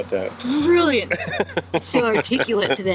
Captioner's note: chuckles